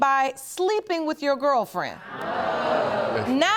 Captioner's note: audience gasps